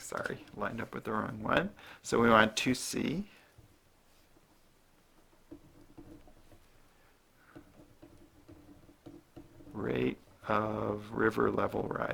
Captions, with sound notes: Sorry. Lined up with the wrong one. So, we're on 2c. [ Writing ] Rate of river level rising.